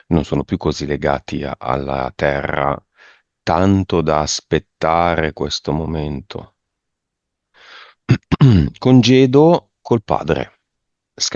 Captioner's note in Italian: schiarire la voce